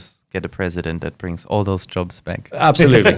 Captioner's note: laughs